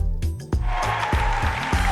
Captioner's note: upbeat instrumental music; crowd cheering; crowd clapping